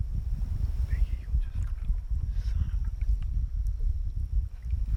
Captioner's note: whispering